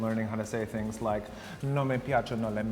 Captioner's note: speaking in foreign language